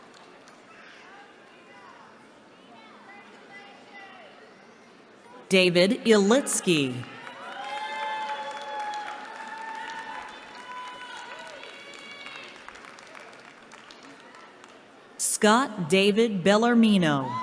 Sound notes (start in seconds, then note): 7.0 cheering